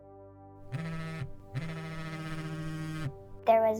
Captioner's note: phone buzzing